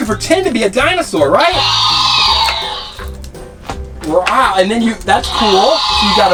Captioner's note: dinosaur screech